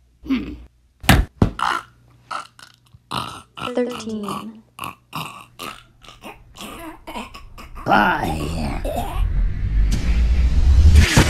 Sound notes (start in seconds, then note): 2.3 choking